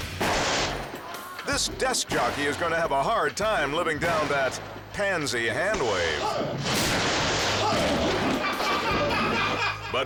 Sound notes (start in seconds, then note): 0.0 firecrackers explode; 6.6 firecrackers explode; 8.0 people laughing